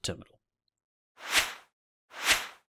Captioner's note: logo whooshes